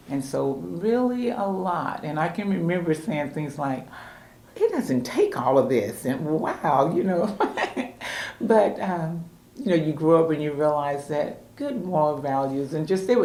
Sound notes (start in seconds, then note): 7.4 laughs